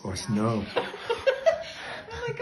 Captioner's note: laughing